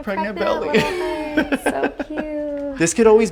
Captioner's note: laughing